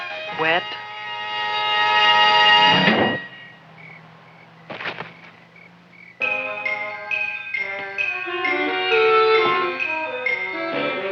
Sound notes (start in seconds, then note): 0.7 dramatic music; 4.4 crickets chirping; 4.7 Leonora thuds; 5.4 anticipatory music